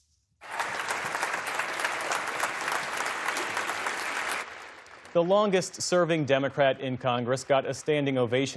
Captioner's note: applause